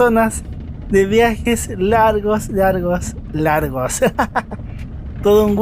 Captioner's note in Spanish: risas